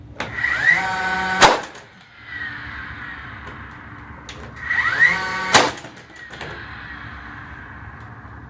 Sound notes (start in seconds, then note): 0.3 drill revving